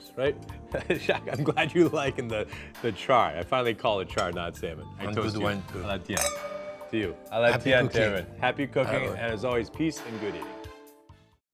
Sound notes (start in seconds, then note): 0.2 laughing; 6.1 glasses clink